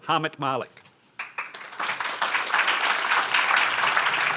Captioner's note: applause